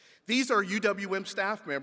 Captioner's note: none